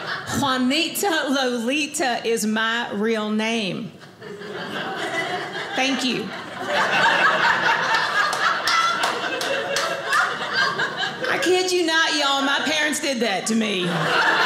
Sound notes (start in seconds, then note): 4.3 audience laughing; 7.0 audience laughing; 14.2 audience laughing